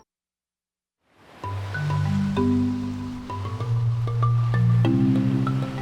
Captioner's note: water swishing; gentle ambient music